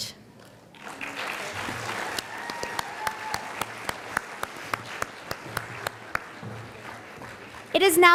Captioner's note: sound of applause and cheering from the audience